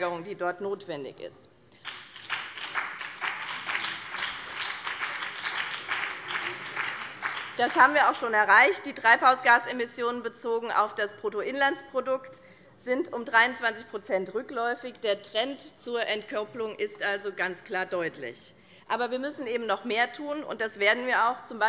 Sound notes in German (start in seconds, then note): 1.7 Beifall